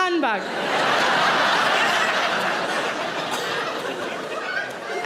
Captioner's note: audience laughing